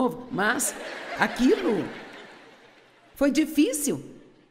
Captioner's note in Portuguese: audiência ri